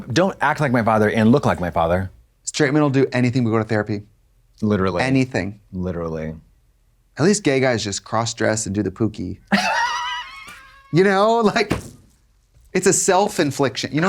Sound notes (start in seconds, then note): 9.5 Katya guffaws